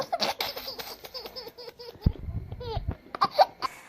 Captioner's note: laughs